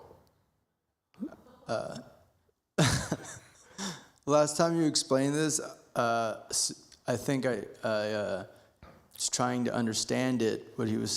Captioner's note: laughs